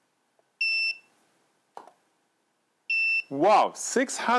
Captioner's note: light beeps